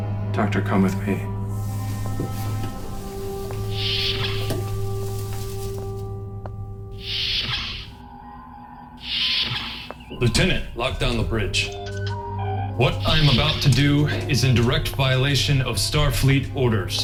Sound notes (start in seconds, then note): 3.9 door opens; 6.7 door closes